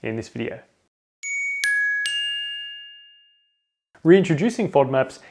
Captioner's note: various bell tones dinging